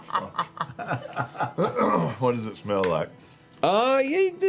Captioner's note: laughter; quietly; clears throat